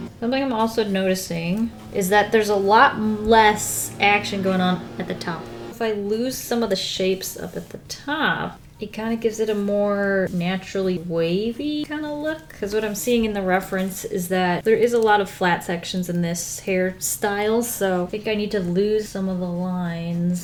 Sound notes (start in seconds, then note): none